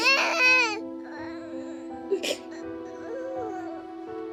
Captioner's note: sobbing